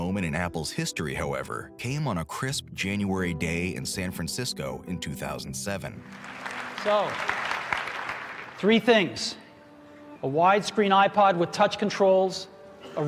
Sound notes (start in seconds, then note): 6.0 audience clapping